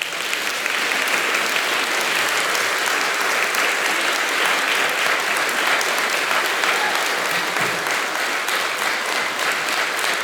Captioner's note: applause